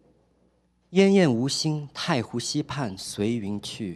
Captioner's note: speaking chinese